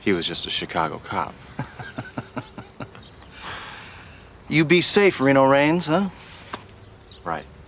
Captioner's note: laughs